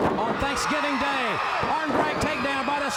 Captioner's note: crowd cheering